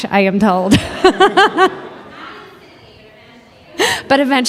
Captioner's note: laughs